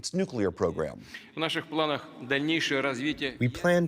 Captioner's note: through translator